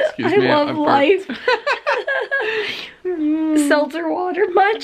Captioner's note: chuckling